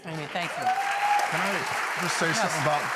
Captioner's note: applause